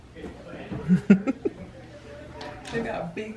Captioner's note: laughs